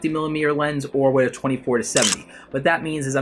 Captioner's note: camera clicking